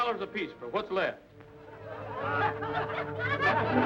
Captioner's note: laughter